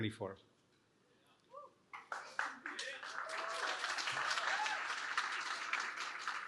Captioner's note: cheering